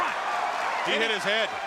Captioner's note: crowd cheering